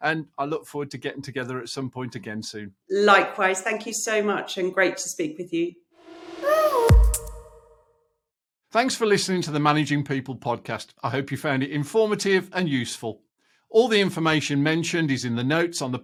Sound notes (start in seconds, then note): 6.0 logo swishing in